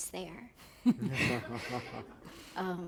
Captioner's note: laughter